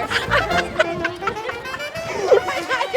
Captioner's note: laughing